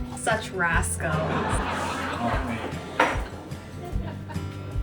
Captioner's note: laugh Track {hahahahhahahahahhahahahahahahahhahahahhahaha}